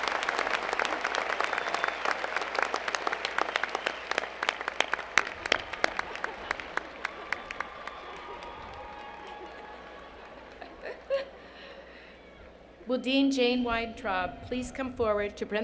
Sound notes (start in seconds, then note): 4.2 applause